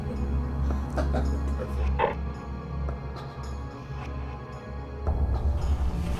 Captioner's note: Zilia laughing; chuckles